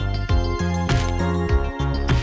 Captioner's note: shutter